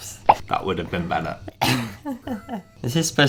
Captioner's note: laughs